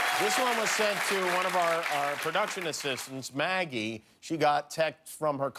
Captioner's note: cheers and applause